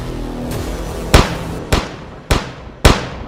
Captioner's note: gunshots